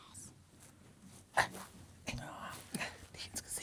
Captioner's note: whispers